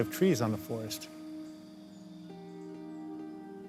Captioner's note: birds whistling